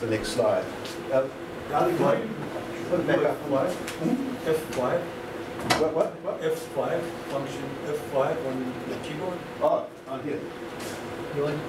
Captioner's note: background Talking